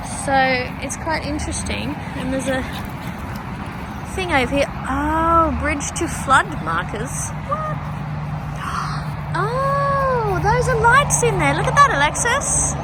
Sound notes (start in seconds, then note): 6.7 high-pitched surprise; 8.7 gasps